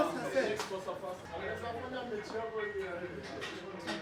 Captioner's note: members chatting